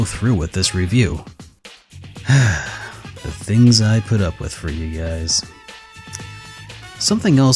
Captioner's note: sigh